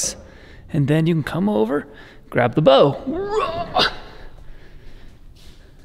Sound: grunts

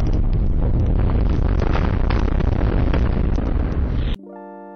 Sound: castle crumbling

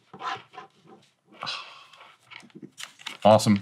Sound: headphones clattering; exhaling

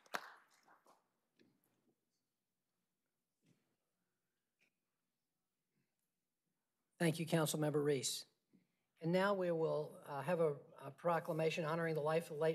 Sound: applause

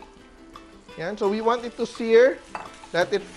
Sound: sizzle

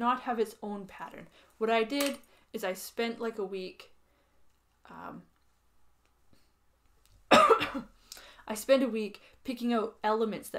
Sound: coughs

